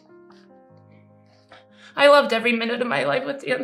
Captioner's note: sniffling